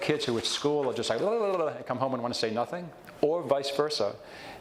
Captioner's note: mimics fast speech